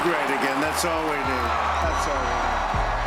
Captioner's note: crowd cheering; upbeat music